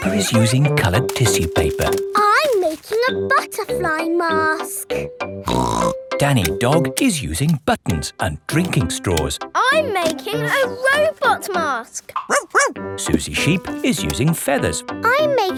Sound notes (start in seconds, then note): 5.4 snorts; 12.2 barks